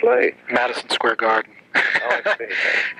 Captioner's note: laughs